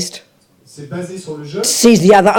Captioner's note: audience member speaks in French